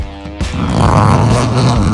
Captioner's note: zipper opening